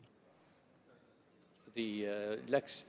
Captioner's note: speaking in french